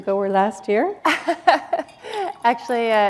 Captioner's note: laughter